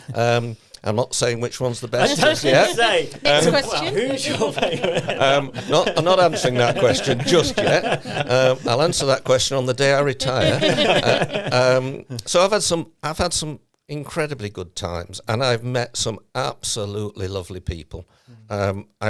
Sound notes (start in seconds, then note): 2.2 all laughing; 5.3 laughs